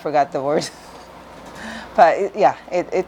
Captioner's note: giggles